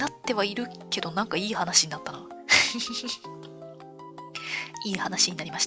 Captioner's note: laughs